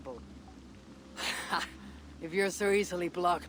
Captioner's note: laugh